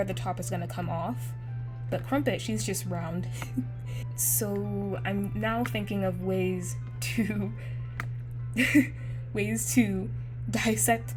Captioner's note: laughs